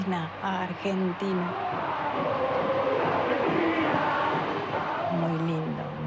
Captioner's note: crowd chants